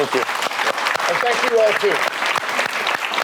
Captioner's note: audience applauds